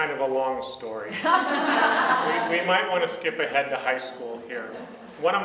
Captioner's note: audience laughs